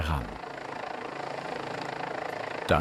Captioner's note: helicopter whirring